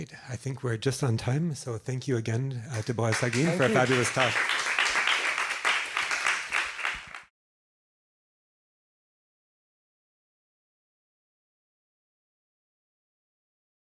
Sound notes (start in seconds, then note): 5.0 applause